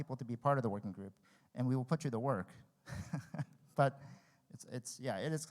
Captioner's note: laughs